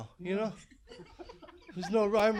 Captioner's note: laughing